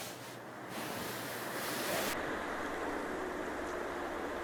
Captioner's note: wind howling